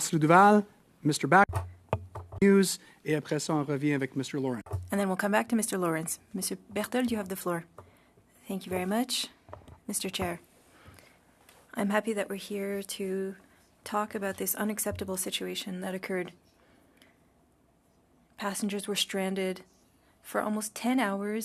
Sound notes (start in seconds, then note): 7.3 speaking French